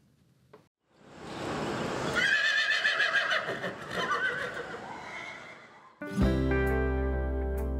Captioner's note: horse Whinnying; country Music